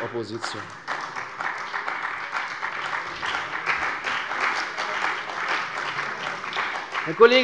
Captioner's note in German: Beifall bei der CDU und dem BÜNDNIS 90/DIE GRÜNEN